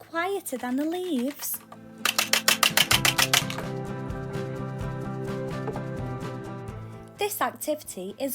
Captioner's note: harsh rattle